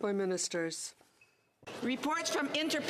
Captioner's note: speaking French